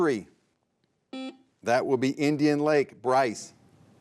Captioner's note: buzzer beeps